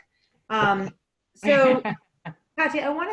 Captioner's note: laughing